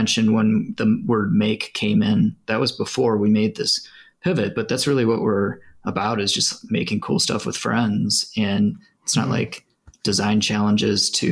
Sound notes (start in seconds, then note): none